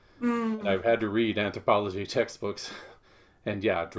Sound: chuckles

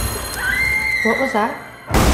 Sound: girl screams

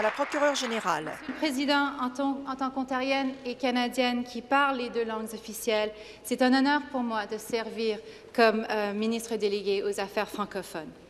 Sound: applause

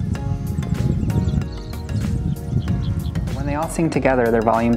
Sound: wind blowing, solo cicada calling

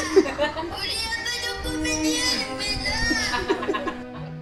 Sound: children's voices full of rage

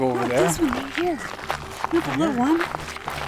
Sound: footsteps crunching

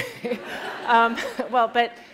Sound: laughter

